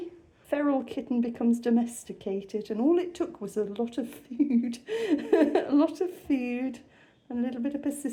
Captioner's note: laughing